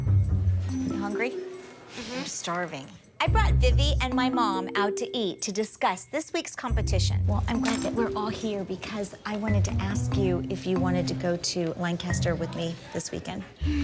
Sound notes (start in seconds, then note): 13.6 sighs